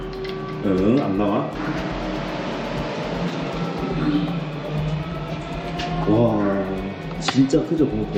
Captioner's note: sirens ringing all day